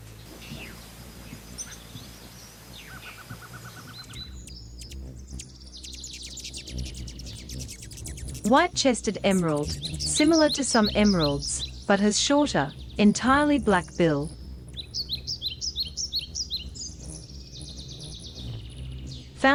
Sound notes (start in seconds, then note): 0.0 bird's wing flapping; 0.3 birds chirping; 4.2 bird's wing flapping; 4.2 birds singing and chirping